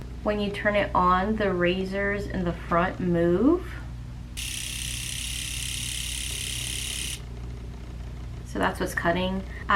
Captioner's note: clipper sounds